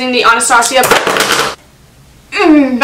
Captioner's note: crash